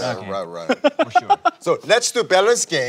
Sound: sudden laughter

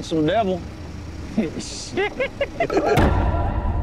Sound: laughs

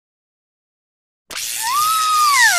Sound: zap!

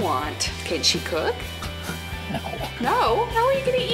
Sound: laugh

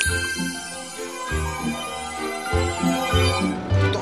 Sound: finger snaps, tinkling; tinkling

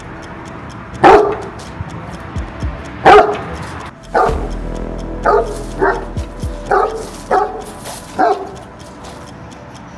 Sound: barking sounds and tension music

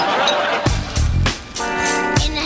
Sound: doorbell rings

